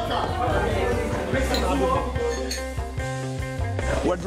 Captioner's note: speaking Italian; glasses clinking